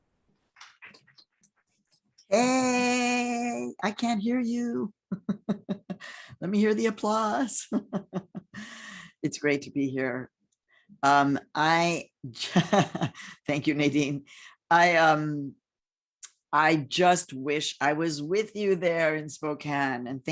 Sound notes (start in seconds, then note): 0.6 hands clapping; 5.3 laughing